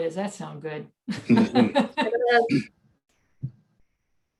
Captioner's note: laughs